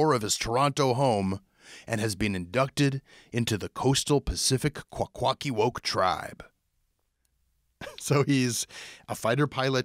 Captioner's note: laughs